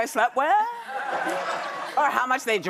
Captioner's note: audience laughs